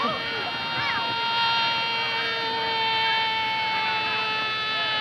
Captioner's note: people chattering